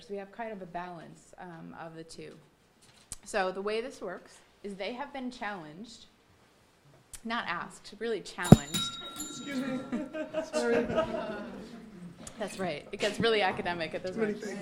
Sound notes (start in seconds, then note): 8.4 bell dinging; 10.0 audience laughing